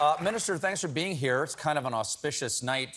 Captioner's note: applause